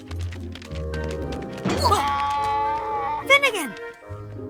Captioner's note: donkey brays